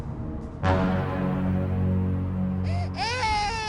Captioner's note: suspense sound; cries with baby sound